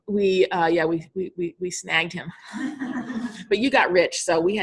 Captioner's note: all laughing